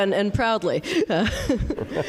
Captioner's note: laugh